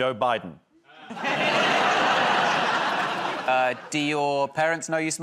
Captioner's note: laughter